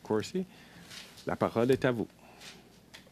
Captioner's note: speaking French